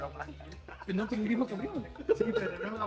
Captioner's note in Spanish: Riendo